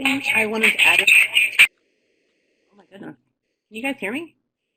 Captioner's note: feedback scratching